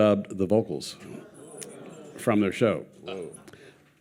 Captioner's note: audience gasping